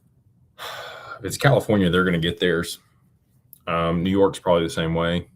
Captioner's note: sighs and gasps